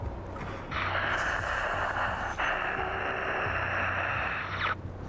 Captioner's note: heavy breathing